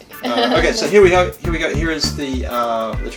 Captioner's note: lightly laughing